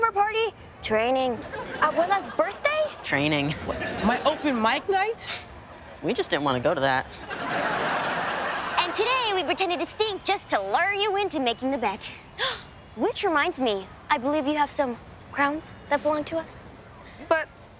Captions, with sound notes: Training. - Abuela's birthday? - Training. My open mic night? We just didn't want to go to that. And today we pretended to stink just to lure you into making the bet. [gasps] Which reminds me, I believe you have some crowns that belong to us? But...